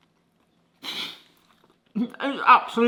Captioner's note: snort of disbelief